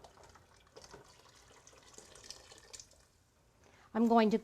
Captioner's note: water pouring out